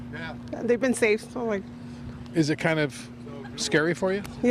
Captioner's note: laughter